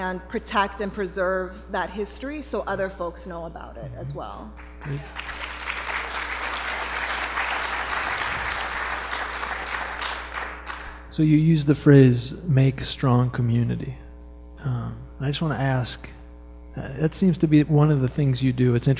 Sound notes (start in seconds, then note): 4.6 applause